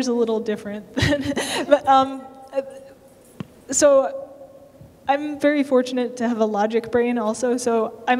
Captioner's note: laughter